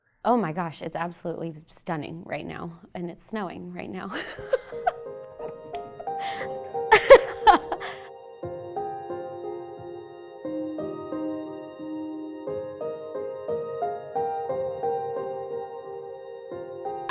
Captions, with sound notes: Oh, my gosh, it's absolutely stunning right now, and it's snowing right now (laughs). (peaceful music)